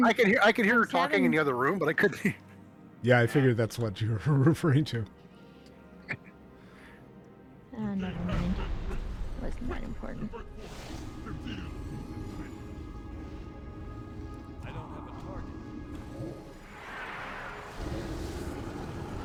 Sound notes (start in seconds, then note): 7.9 laughs